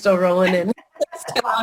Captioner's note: laughter